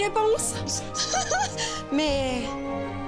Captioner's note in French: rire